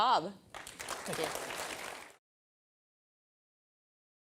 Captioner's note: applause